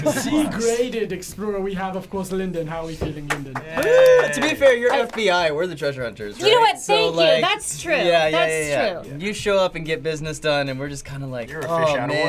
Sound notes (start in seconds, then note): 3.2 golf claps